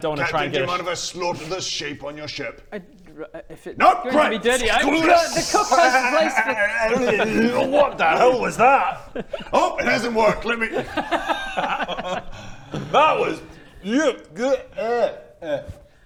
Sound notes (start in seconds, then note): 4.9 sczrrr-ssssssssss